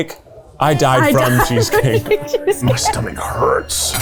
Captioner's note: laughing